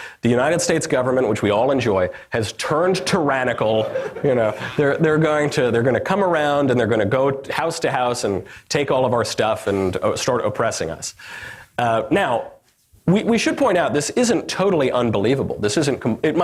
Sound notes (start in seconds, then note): 3.6 audience laughter